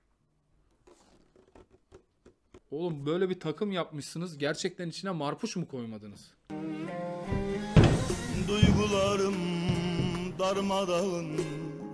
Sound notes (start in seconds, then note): 0.7 box sound